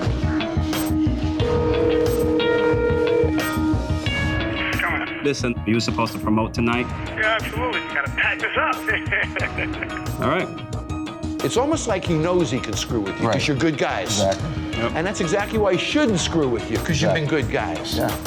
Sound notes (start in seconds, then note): 1.5 ringing; 7.9 laughs